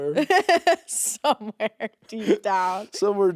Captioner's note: chuckles